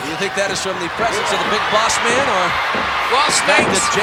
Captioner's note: audience cheering